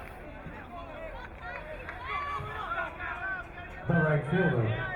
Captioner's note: crowd cheering